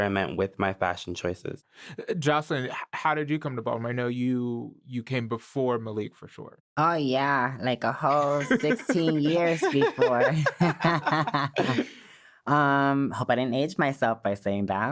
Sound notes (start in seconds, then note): 10.1 all laughing